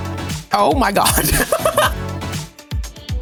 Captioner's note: upbeat music; laughs